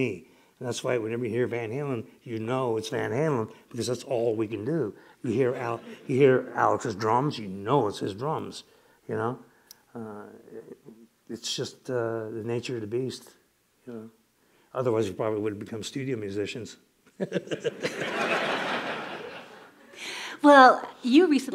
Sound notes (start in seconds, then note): 14.9 laughter